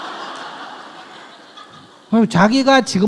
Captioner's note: audience laughs